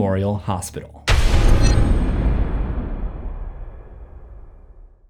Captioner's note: text thuds